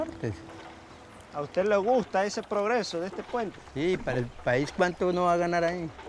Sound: speaking in foreign language

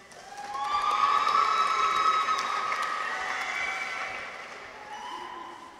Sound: audience applauds; people cheer

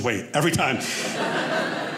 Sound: audience laughing

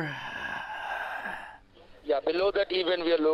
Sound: heavy Breathing

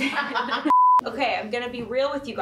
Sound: screen beep

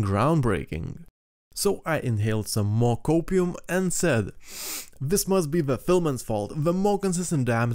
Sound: inhale

